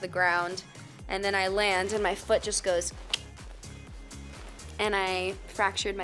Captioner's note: mimics cracking